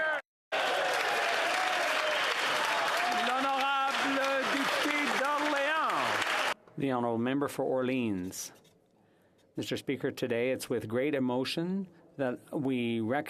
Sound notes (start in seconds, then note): 5.0 some Applause